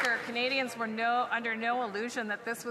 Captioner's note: some Applause